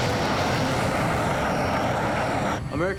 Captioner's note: aircraft noise